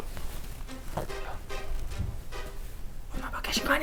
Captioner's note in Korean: 부스럭 부스럭